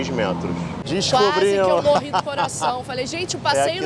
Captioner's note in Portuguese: rindo